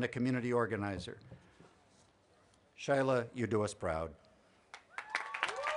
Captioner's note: applause